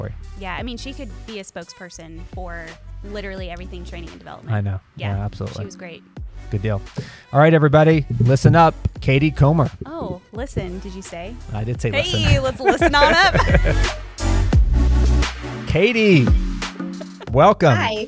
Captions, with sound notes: -She could be a spokesperson for literally everything training and development. -I know. Absolutely. -She was great. -Good deal. All right, everybody. Listen up. Katie Comer. -Oh, listen, did you say? -I did say listen. -Hey, let's listen on up! [laughter] Katie, welcome. -Hi.